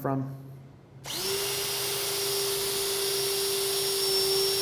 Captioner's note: drill buzzing